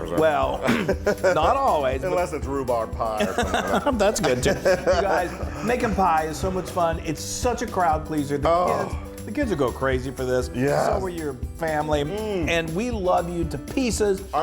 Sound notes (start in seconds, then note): 3.2 laugh